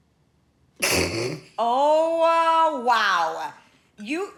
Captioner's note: snickers